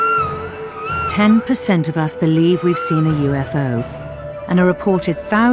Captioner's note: voiceover